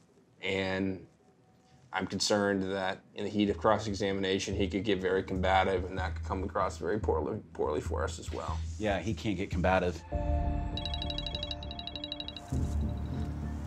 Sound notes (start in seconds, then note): 10.7 phone ringing